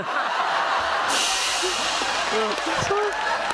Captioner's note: laughter, cymbal crash